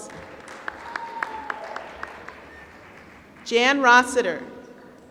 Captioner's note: applause